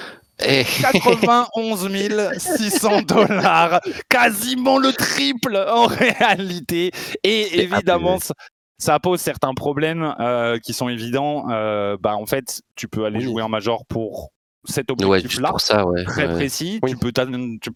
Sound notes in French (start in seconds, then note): 1.8 rires